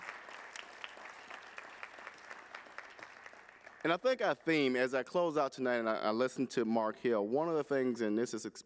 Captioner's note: applause